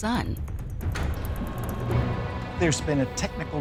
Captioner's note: machinery whirring